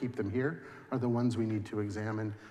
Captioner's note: none